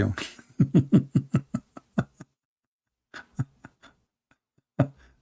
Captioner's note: Ketawa